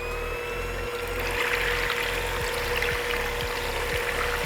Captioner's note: mixer whirring